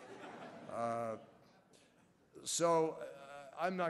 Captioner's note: laughter